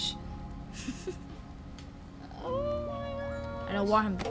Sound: Sabrina laughs

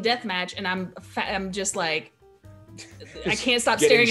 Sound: laugh

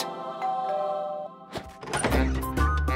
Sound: doorbell

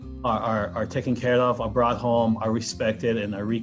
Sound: in Hawaiian language

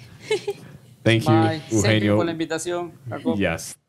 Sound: speaks in Spanish

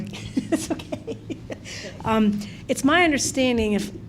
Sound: laughs

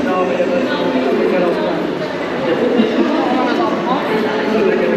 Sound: crowd chattering

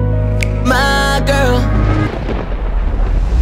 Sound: thunder and lightning

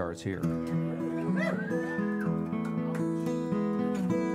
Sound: audience cheers

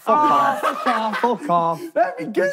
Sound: laughing

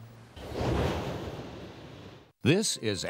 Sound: air whooshing

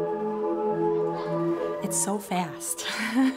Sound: chuckles

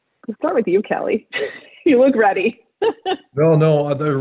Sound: laughs

